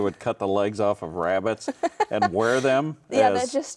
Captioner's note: laughing